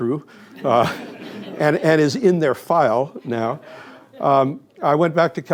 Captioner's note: laughter